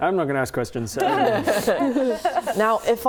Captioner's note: laughing